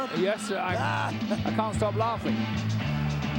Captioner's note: Jim laughing